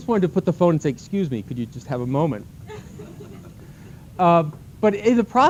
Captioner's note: laughter